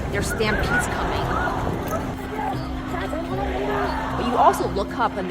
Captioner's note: crowds chanting